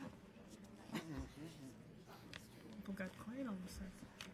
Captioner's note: speaking softly